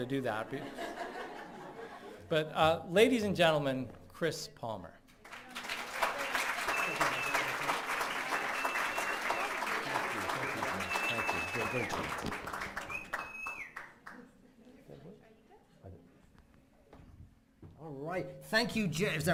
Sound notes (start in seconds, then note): 0.3 laughing; 5.2 clapping